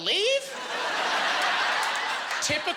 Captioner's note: laughing